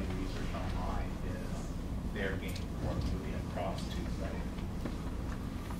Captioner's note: faintly speaking